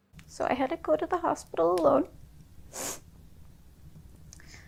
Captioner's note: sniffles